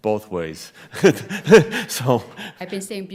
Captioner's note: laughing